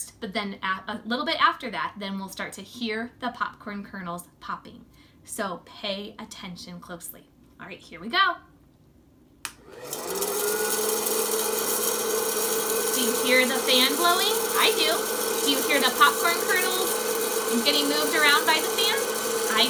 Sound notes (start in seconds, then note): 9.8 fan whirring; 9.8 kernels clacking